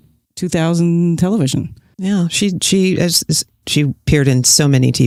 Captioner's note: none